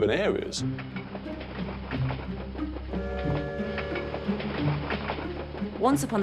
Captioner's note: train whistle blowing; upbeat music